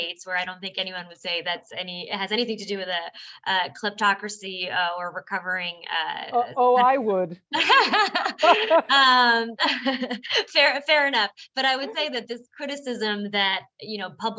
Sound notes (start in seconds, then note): 7.6 laughs